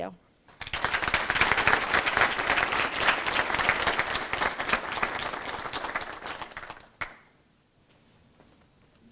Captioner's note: applause